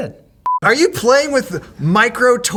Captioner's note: beep